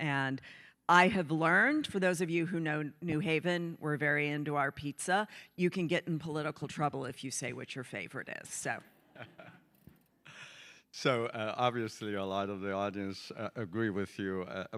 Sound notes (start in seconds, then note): 9.1 chuckling